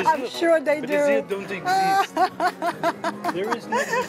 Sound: laughs

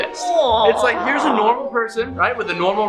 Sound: lady growls

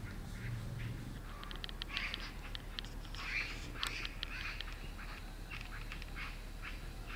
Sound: birds singing

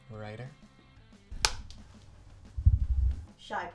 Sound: clapboard clapping

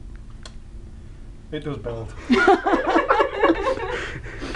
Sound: laughter

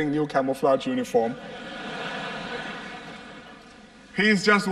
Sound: laughter

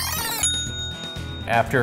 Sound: ding!

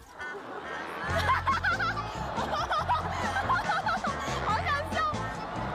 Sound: just keep laughing

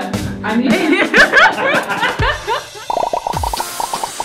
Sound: laughter

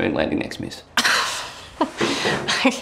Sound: Jade laughs

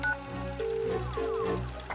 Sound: phone waiting

